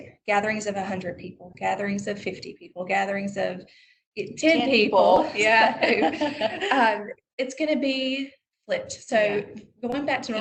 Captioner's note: laughter